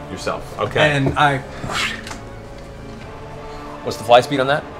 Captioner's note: flying noise